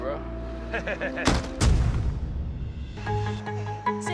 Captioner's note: chuckles